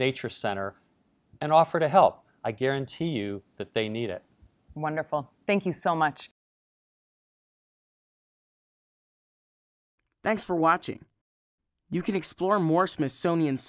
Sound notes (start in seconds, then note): 10.2 voiceover